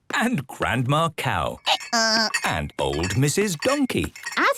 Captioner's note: braying